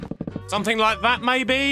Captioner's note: game sounds